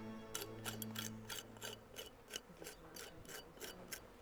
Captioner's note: shovel scraping